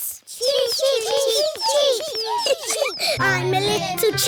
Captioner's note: children imitating chicks